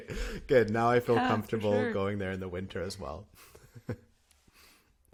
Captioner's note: laughter; laughter